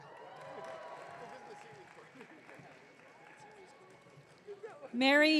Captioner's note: audience cheering